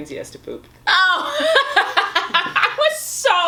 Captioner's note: laughs